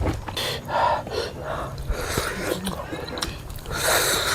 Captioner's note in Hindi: हांफने की आवाज़; नाक से की जाने वाली आवाज़